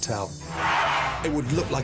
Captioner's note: Cheers and applause